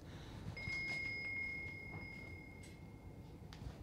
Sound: Bell rings in Margret's room

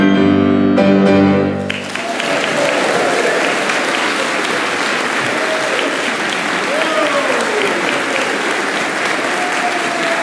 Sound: applause

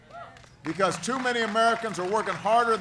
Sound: applause

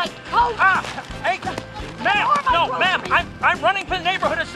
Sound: mixed exclamations

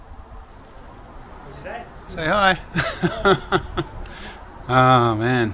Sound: laughing

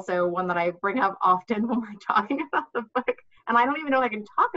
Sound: laughing

